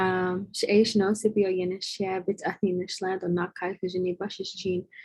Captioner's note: speaking foreign language